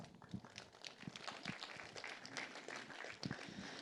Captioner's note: applause